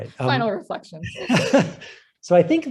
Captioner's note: laughter